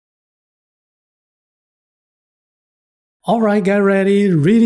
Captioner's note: pause